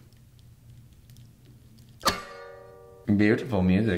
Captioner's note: cutting